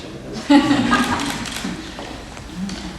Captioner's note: crowd laughs